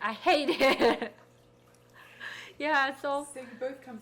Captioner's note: laughing